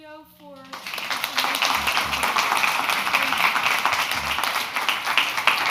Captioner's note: crowd clapping